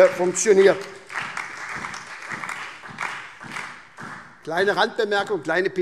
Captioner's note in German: Beifall SPD